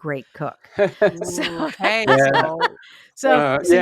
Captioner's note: laughs